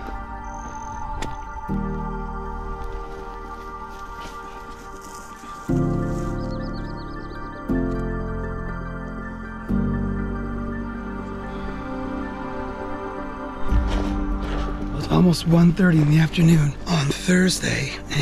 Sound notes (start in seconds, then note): 6.4 birds chirping